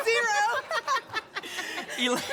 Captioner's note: laughter